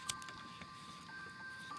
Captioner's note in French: bruit de briquet